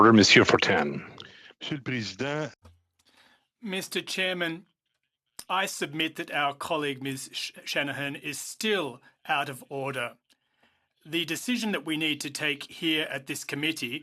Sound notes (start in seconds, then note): 8.3 speaking in French